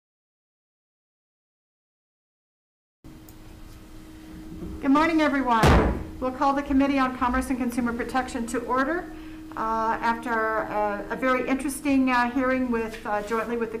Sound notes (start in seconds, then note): 5.6 gavel thudding